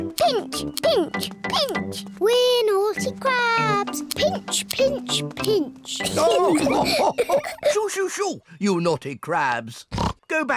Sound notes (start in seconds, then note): 6.0 all laugh